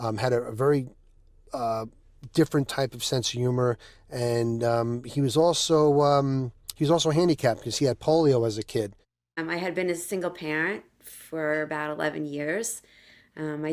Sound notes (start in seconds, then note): none